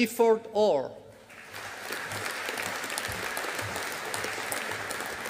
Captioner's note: audience applauding